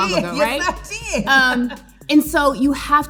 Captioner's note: chuckling